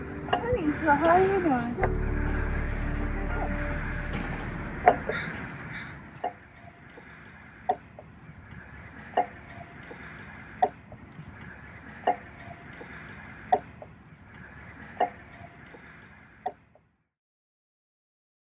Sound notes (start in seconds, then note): 4.2 sound of a swing